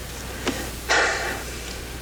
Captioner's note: sighs